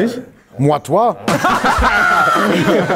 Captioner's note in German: Er sagt etwas auf Französisch; Lachen